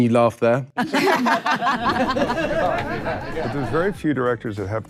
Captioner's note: panelists laughing